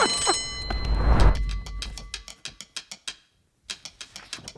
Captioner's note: bell rings; clock ticks